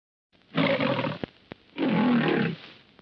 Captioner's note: lion roars